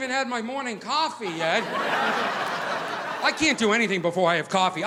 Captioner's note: audience laughing